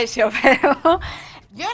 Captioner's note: laugh